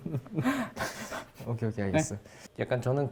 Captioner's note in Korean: 웃음